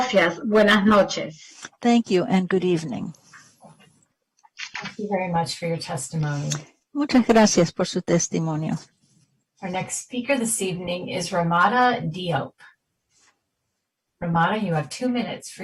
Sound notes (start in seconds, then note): 2.8 speaking spanish